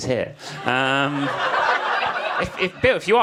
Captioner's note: audience laughs